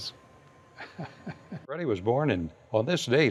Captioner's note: laughs